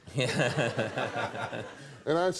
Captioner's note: audience laughs